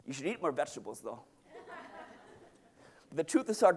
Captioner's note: audience laughing